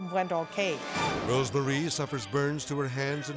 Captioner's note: dramatic whoosh